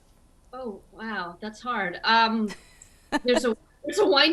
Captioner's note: chuckles